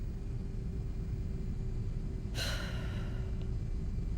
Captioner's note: sighs